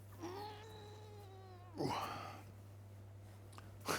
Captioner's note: grunting